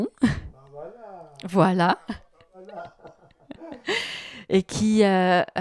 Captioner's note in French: ils rient